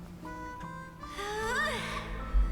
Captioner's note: sigh